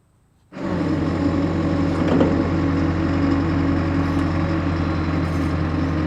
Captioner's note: truck engine whirring